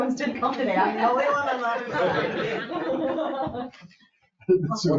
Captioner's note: people laugh and chatter